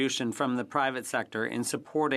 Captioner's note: speaking French